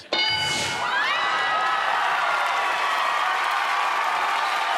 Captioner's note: cheers and applause